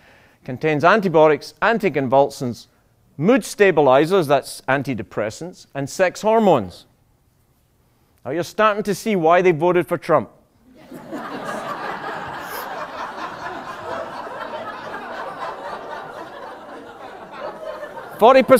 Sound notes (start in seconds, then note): 15.3 laughter